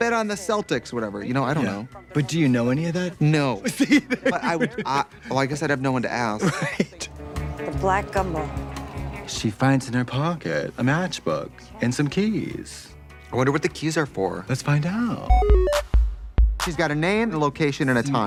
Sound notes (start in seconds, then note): 3.6 laughing